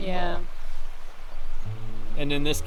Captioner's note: birds sing faintly